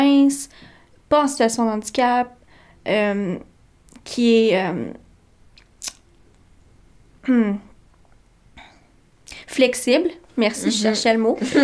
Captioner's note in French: rires